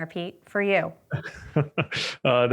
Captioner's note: laughs